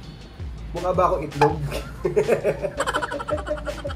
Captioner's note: laugh